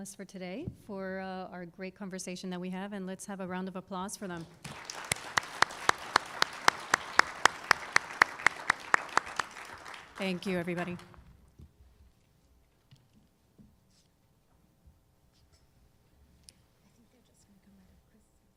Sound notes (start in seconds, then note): 7.8 applause